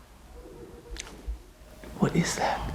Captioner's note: distant giggling